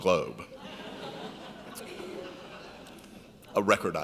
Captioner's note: laughing